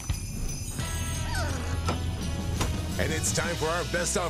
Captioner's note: dog whining